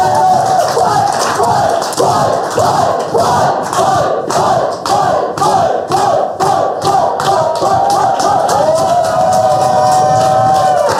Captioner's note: chanting